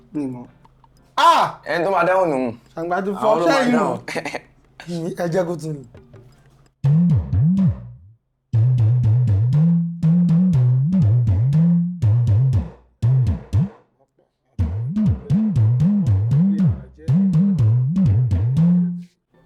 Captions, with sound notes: No, I don't. Haa! He will be the one to answer it. Haa! This is beyond normal! Do you know it? [Laughs] Let him repeat the beat again. [Drum beat] [Drum beat]